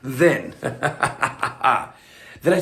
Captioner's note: chuckles